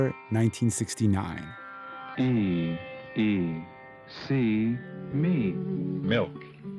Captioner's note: soundbite of tv show, "sesame street"